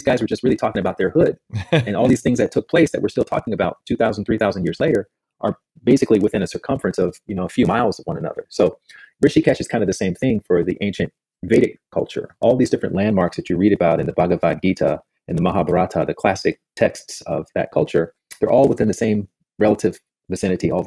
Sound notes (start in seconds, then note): 1.4 laughs